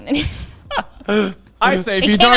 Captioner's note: all laughing